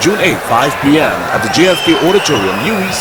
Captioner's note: wild applause and cheering for 22 seconds